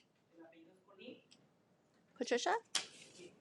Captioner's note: speaking in Spanish